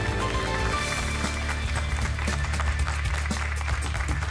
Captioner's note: applause